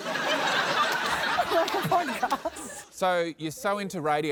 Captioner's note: laughter